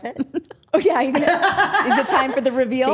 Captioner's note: laughs